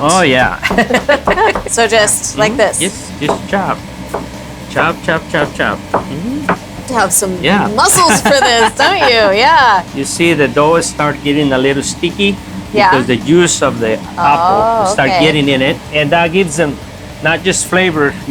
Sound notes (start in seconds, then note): 3.7 knife clacks